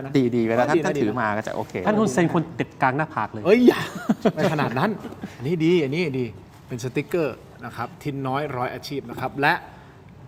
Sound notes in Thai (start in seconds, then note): 3.6 เสียงหัวเราะ